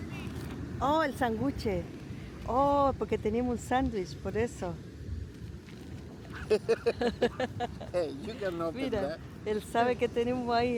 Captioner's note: laughs